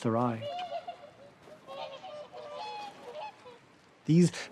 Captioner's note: honking